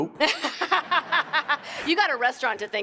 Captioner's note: laughs